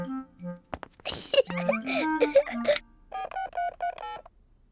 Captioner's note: giggles